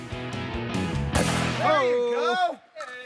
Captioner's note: gun fires